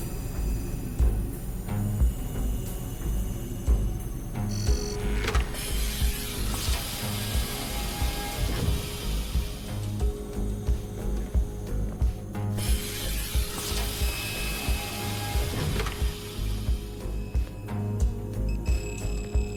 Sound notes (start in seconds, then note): 5.7 door whooshes